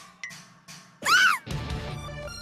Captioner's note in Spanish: Grito de espanto.mp3